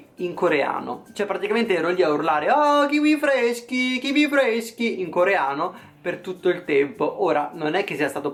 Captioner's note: neapolitan accent